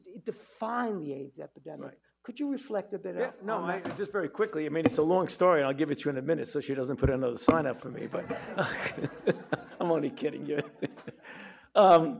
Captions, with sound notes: it defined the AIDS epidemic. Could you reflect a bit on it? - Just very quickly, I mean, it's a long story. I'll give it to you in a minute so she doesn't put another sign up for me, but. (audience chuckling) (chuckles) I'm only kidding.